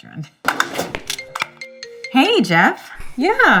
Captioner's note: phone ringing